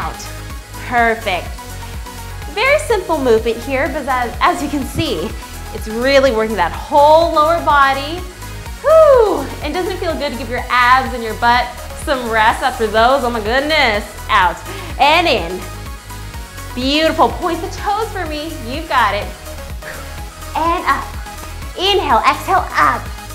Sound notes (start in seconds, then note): 8.8 screams